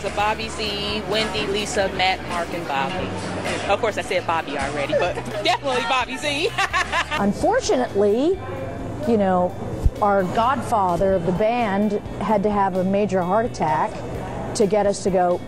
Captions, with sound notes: Bobby Z, Wendy, Lisa, Matt, Mark and Bobby. Of course I said "Bobby" already, but definitely Bobby Z (laughing). - Unfortunately, our godfather of the band had to have a major heart attack to get us to go,